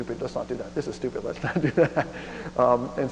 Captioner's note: laughs